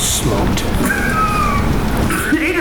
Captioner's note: laughs